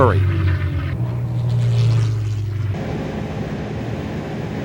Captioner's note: engine roars